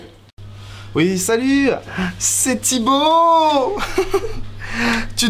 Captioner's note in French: rires